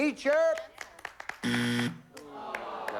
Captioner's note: buzzer